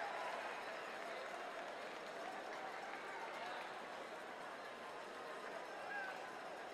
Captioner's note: cheers and applause